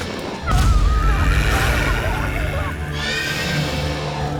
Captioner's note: screams; growling, snarling